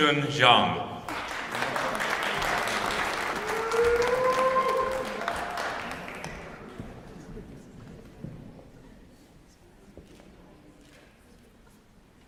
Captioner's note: applause